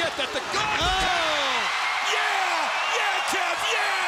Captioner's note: commentators exclaim